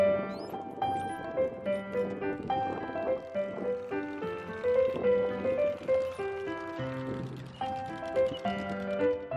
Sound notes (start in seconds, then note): 1.8 card flaps; 2.7 piano music